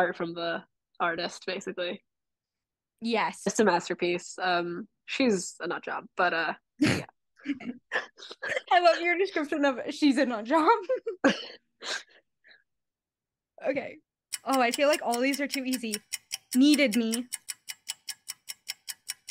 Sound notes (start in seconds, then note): 7.4 laughter; 10.6 laughter; 14.3 ticking nosies